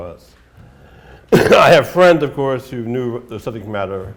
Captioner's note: coughs